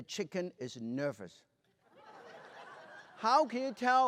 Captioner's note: laughter